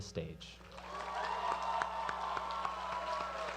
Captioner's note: cheering